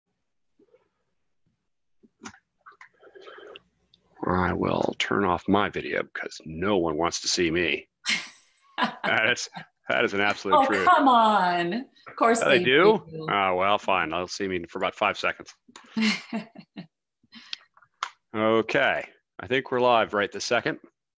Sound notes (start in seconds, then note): 10.0 laughs; 15.9 chuckles